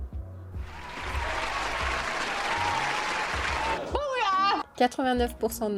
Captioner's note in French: Applaudissements